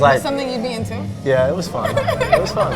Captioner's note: laughs